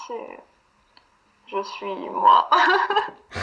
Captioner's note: laughs